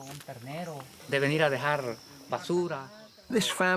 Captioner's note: ranger speaks in foreign language